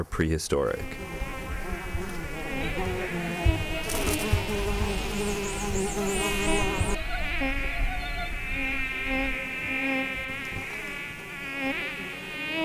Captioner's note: sound of bugs swarming